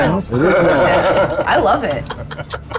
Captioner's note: group laughs